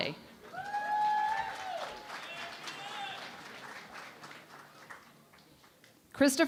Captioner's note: cheering and Applause